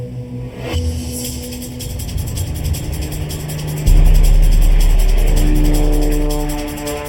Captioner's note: tense music; engine buzzing